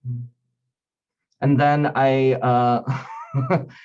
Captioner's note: chuckling